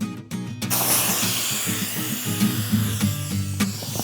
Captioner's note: air escaping